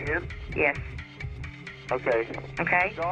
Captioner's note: on phone